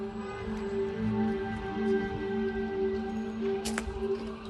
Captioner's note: sirens wailing